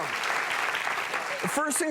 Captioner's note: audience clapping